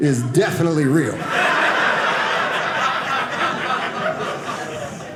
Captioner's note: audience laughing